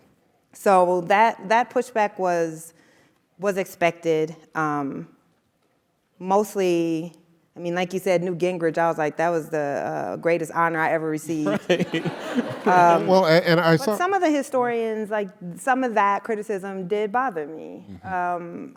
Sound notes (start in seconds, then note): 11.4 laugh